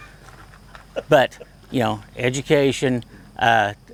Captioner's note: laughing